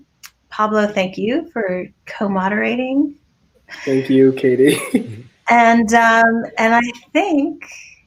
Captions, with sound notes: Pablo, thank you for co-moderating. - Thank you, Katie. (chuckles) - And I think